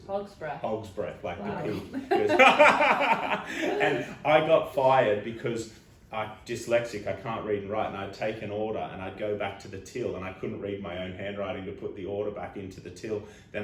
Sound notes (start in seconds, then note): 1.6 laughing